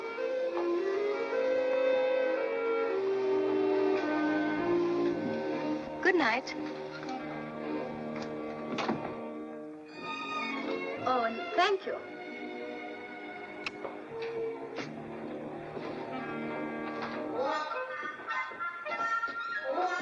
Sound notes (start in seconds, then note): 0.2 romantic music; 8.0 doors close; 13.7 playful music